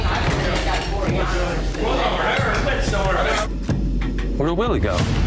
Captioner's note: indistinct crowd chatter